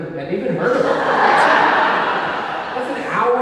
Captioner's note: audience laughing